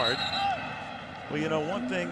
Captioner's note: whistle blows